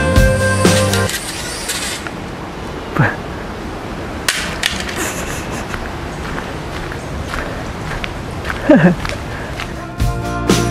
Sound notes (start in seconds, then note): 6.6 chuckle